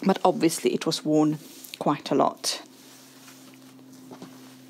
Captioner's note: fabric rustling